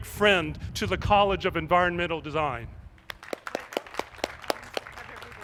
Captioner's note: applause